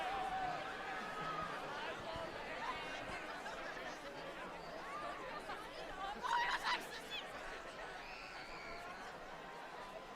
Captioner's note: applause